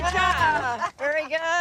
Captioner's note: group cheering